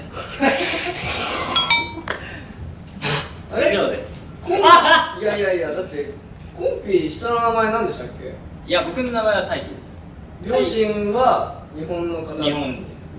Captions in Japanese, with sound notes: 一同）（失笑） こん… (笑い声) いやいやいや、だって いや、僕の名前は「大輝」ですよ